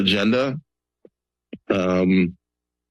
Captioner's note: pause